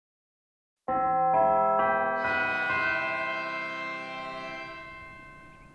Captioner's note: bells